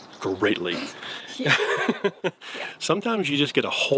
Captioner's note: laughing